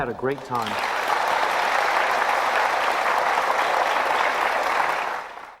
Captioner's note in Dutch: applause